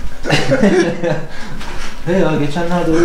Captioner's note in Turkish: Gülüşmeler